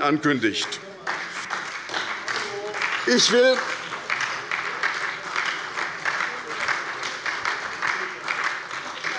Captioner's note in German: Beifall bei der : Unverschämt!